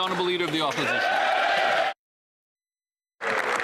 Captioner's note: applause